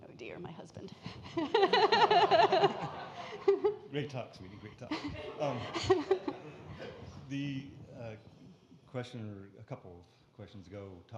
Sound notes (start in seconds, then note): 1.1 laughs; 1.3 audience laughing